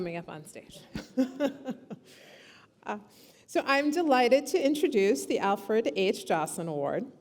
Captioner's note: laughs